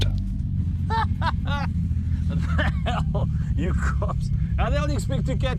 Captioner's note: laughing